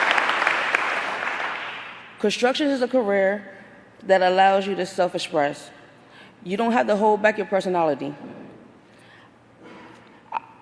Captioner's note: applause